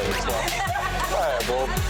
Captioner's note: ladies laugh